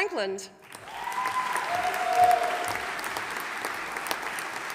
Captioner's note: audience applauding